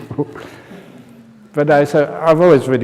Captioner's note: laughter